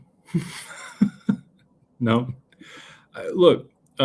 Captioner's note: laughter